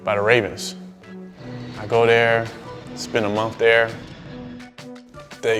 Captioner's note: plane engine roars